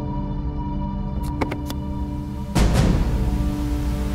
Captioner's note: gear shifts